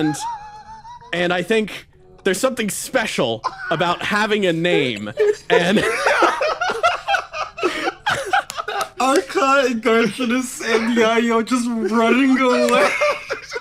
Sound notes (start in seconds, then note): 4.4 everyone Laughs; 13.3 through tears